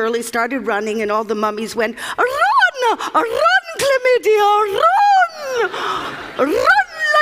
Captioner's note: Laughter